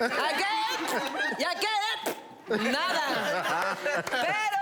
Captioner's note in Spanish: Hace ruido con la boca